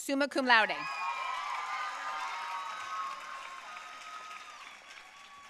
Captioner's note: audience cheering and applauding